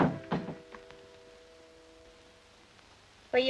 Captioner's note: door thuds